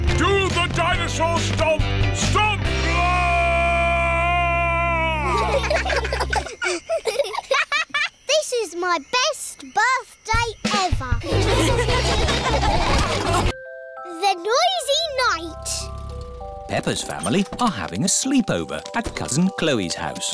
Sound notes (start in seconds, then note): 5.2 children giggle; 11.2 all laughing